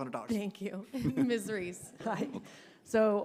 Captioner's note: chuckles